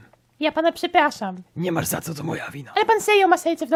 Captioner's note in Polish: none